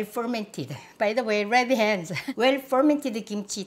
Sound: laughs

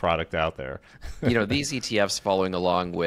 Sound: chuckles

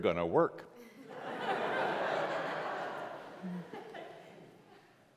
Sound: congregation laughs

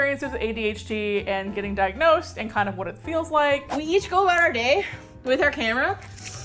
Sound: out of breath

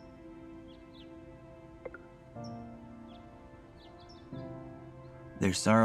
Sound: birds chirping; phone beeping

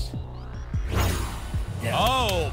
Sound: whoosh

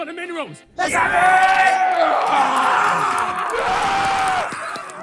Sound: players cheer

